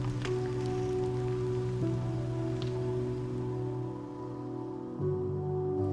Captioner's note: car engine sputters